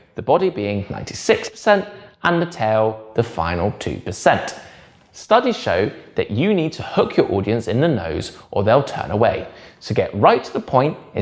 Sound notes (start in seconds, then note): none